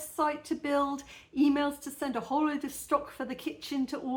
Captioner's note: none